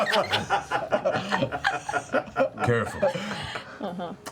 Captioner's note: laughter